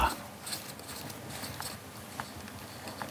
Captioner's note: quiet scraping